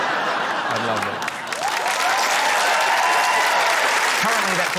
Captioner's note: laughter; cheering, applause